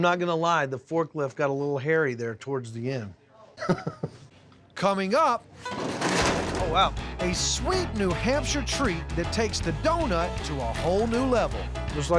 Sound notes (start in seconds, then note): 3.6 chuckling